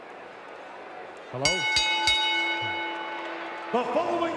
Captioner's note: bell ringing